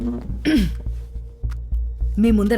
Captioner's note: clears throat